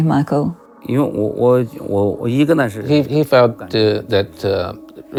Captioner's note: speaking in foreign language